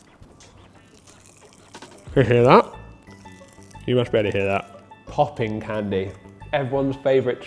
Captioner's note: crackle